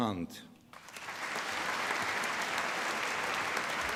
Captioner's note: applause